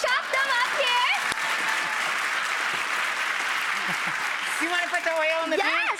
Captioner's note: audience cheering and clapping